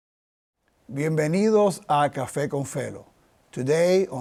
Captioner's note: in Spanish